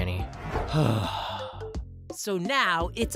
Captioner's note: sigh